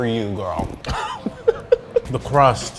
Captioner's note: laughing